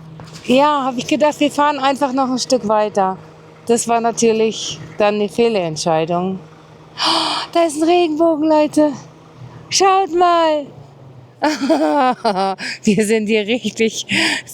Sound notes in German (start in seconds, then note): 7.0 japst; 11.4 gelächter